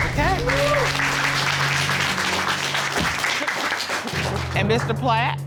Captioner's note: applause